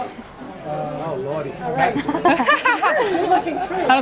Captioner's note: laughter